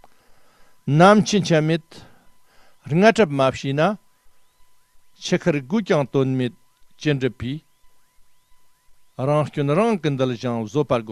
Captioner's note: tibetan